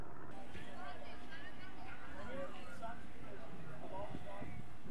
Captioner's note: crowd chattering